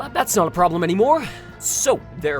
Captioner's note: pained exhale